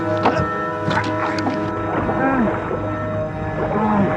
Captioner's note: groaning